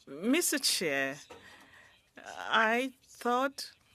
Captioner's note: speaking French